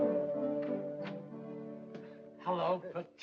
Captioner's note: door opens